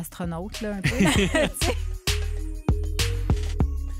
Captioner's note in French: rires